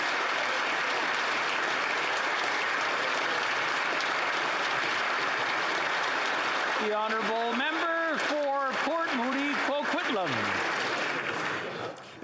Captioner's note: some Applause